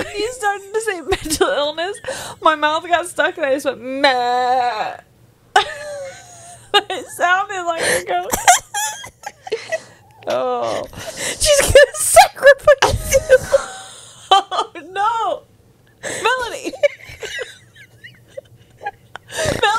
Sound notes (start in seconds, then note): 8.5 panel laughing; 14.1 laughs; 16.2 laughs